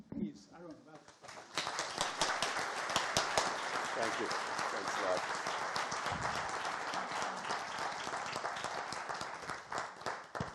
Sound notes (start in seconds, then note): 1.7 applauding; 6.2 audience applauding